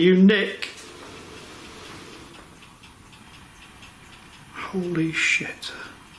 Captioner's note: loud dragging noise